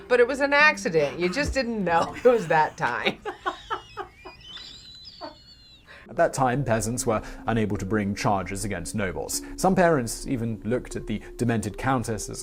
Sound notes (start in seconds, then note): 3.5 React laughs; 4.6 wheezing laugh